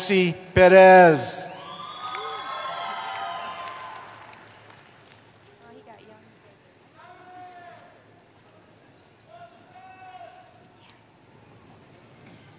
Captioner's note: cheering